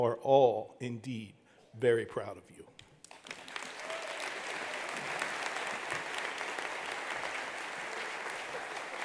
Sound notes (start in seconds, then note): 3.0 attendees applauding; 3.7 attendee cheering